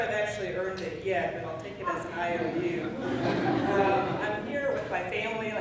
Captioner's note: laughing